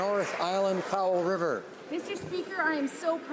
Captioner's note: some Applause